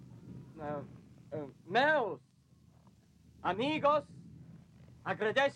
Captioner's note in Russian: пробует говорить по-испански